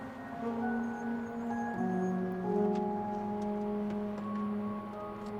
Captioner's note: tires screeching softly